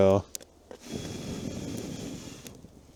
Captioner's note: blows